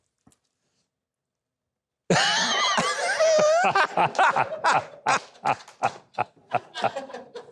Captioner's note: hosts laughing; audience laughing